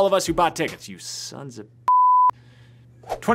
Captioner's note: beep